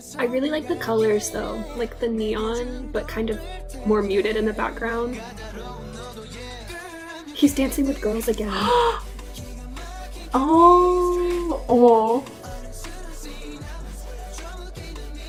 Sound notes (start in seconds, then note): 8.9 excited